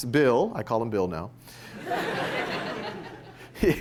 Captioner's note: laughter